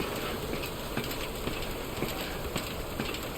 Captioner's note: river flowing